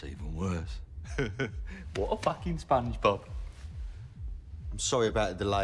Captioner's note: chuckles